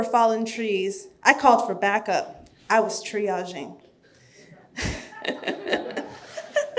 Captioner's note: laughing